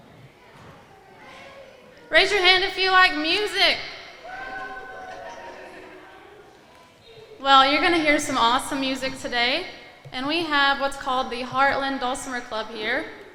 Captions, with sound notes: Raise your hand if you like music. (pupils clamoring) Well, you're gonna hear some awesome music today. And we have what's called the Heartland Dulcimer Club here.